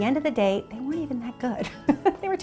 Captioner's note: chuckling